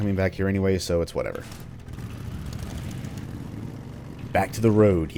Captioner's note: engine starts